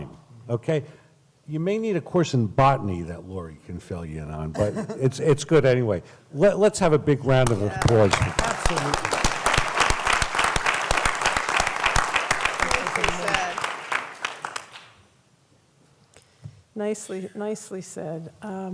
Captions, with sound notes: okay,you may need a course in botany that Lori can fill you in on right it's it's good anyway let's have a big round of applause [applause] nicely nicely said